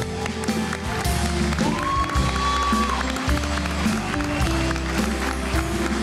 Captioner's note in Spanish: Ovación